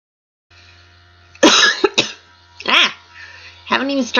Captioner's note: coughs